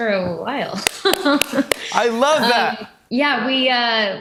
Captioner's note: chuckles